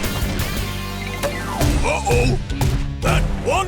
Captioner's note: thumping